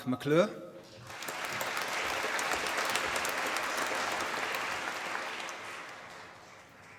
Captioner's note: applause